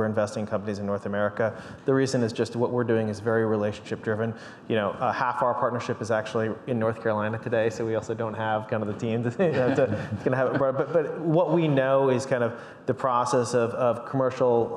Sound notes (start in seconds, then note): 9.4 panelists laugh